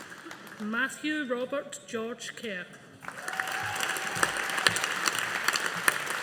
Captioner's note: audience applauding